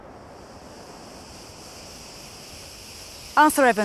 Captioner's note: insects buzzing